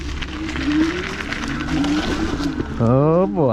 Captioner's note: motor humming